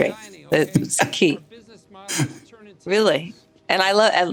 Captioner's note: laughs